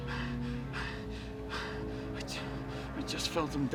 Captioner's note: panting